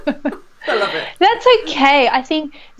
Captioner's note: laughing